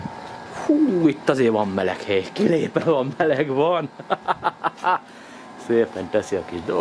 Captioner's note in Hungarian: nevetés